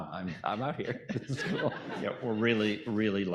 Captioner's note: audience laughing